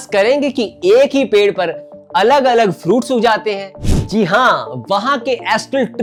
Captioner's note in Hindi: नाक से की जाने वाली आवाज़